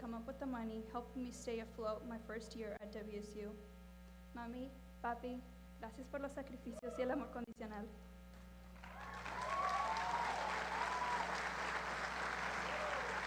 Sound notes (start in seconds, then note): 4.3 speaking spanish; 8.7 applause